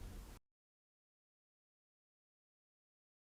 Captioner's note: pause